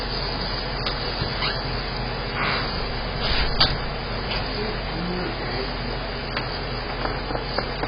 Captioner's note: door closes and locks